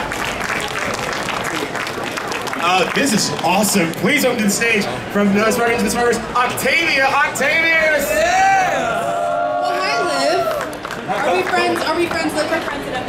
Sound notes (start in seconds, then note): 0.0 audience clapping; 8.0 audience cheering